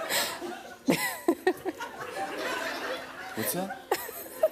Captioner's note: laughs